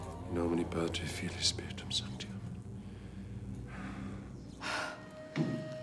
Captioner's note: Lukas speaks foreign language